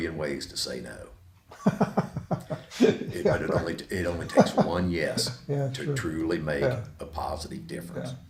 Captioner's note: laughs